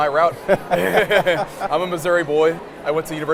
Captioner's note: laughing